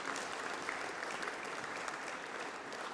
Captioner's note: applause